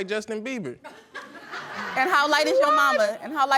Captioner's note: audience laughing